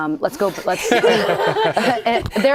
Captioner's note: laughter